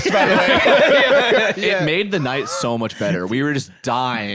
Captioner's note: all laughing